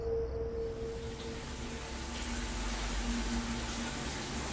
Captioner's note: water runs